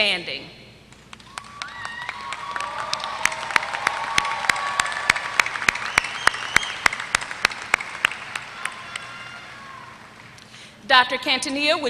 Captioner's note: applause